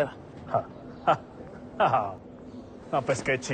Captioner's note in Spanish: Risas